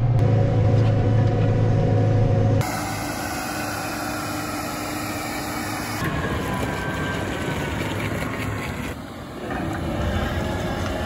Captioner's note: engine noise